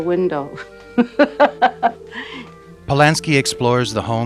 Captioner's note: laughing